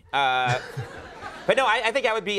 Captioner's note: crowd laughing